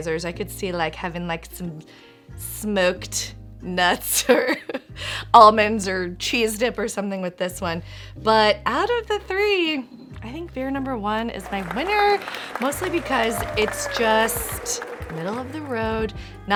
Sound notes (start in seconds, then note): 11.4 crowd claps